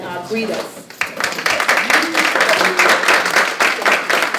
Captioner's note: applause